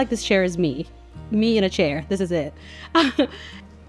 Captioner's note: laughs